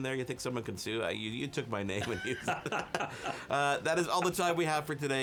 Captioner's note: both laugh